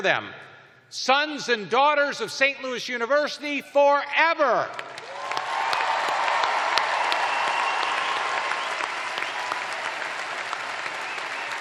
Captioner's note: cheers and applause